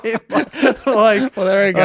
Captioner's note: laughing